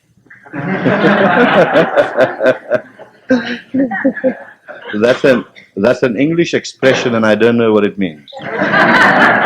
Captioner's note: laughter